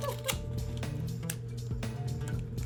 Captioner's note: chuckles